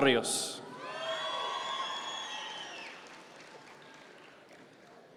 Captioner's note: audience members cheer